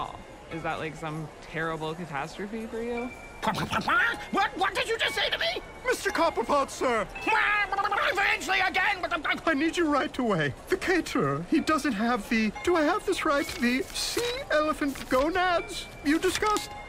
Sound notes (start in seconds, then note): 6.4 dismayed squawking